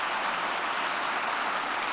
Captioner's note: applause